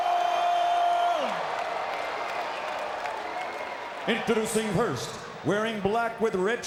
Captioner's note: applause